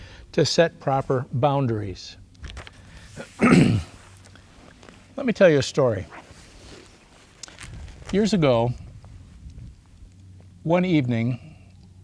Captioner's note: clears throat